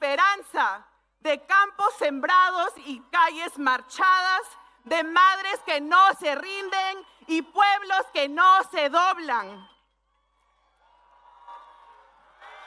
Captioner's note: speaking spanish